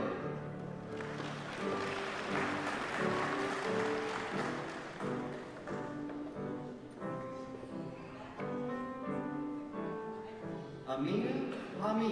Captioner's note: applause